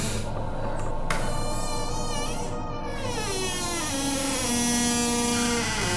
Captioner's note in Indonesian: suara pintu terbuka